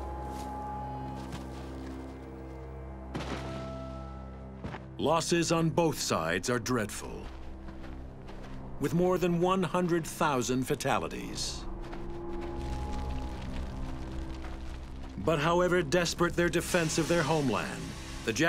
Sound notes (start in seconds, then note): 11.8 fire crackling